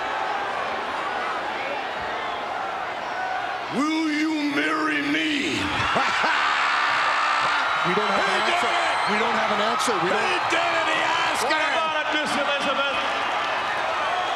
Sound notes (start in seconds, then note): 0.0 applause; 5.5 laugh